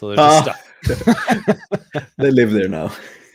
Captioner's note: chuckling